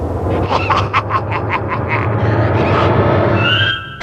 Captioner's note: laughs